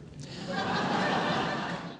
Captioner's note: audience laughs